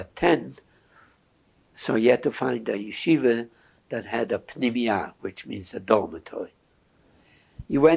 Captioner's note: hebrew